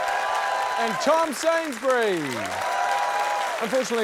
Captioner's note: cheering, applause